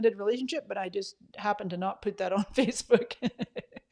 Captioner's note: laughs